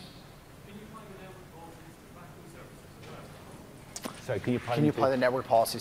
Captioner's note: off mic